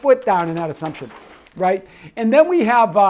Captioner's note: paper rustles